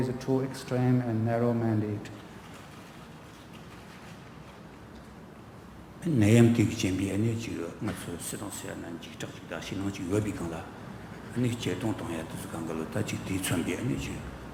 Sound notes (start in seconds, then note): 6.1 speaking tibetan